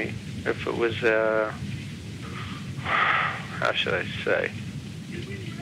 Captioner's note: sighs